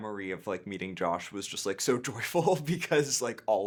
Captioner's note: chuckling